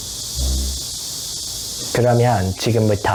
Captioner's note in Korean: feat.매미소리